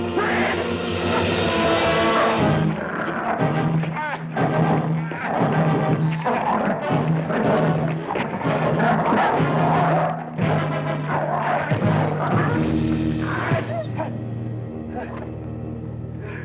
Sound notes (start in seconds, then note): 1.7 dramatic music; 5.7 dog growling; 13.7 dog whimpers